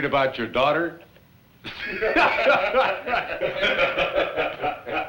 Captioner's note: laughter